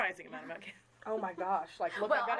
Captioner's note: chuckling